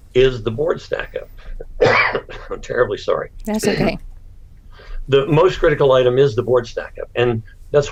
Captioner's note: coughs